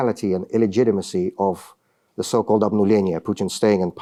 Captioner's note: speaking russian